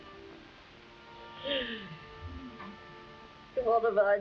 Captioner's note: Marquesa crying